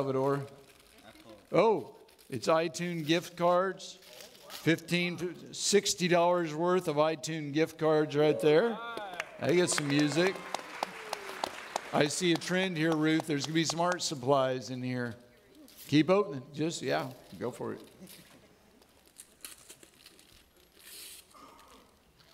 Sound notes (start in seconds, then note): 8.8 audience clapping